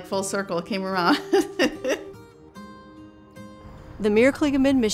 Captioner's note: laughs